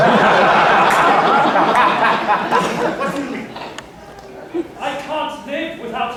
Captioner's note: laughter